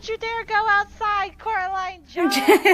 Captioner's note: laughter